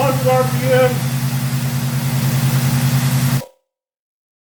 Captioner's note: engine idling fast